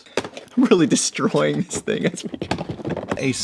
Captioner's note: smashes box open